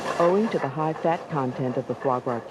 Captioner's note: voiceover